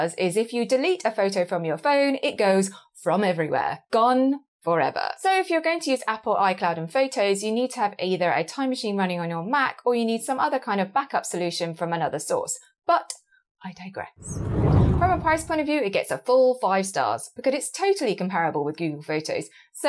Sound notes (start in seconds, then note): 14.2 screen whooshing